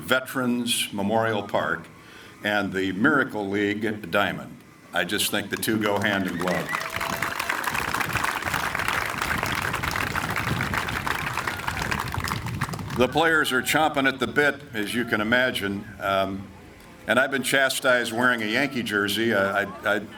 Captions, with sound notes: Veterans Memorial Park and The Miracle League at The Diamond. I just think the two go hand in glove. (audience applauding) The players are chomping at the bit, as you can imagine. And I've been chastised wearing a Yankee jersey.